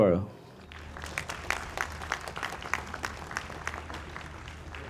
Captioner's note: audience applauds